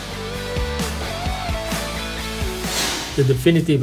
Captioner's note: lively music; screen whooshing